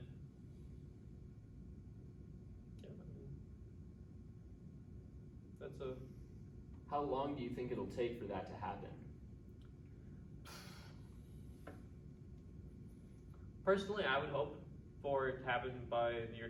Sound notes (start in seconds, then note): 10.4 long sighhhhhh